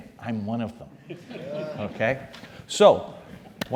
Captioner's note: laugh